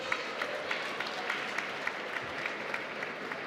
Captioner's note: applause